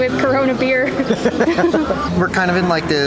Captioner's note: both laughing